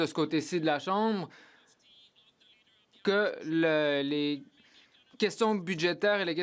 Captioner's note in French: voix de l'interprète